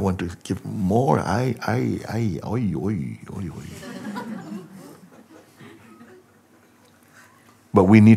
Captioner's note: Lachen